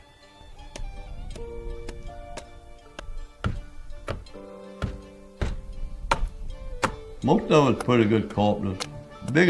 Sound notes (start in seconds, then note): 0.0 gentle music; 0.8 tools banging